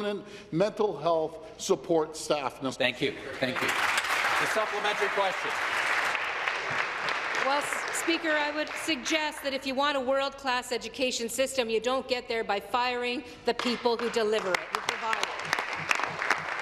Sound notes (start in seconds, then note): 7.2 applause